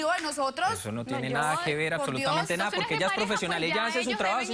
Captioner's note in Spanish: Hablan al unísono